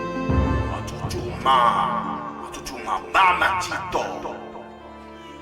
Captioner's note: improvised language